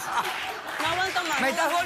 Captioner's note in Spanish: risas